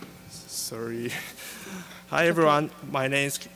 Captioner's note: laughing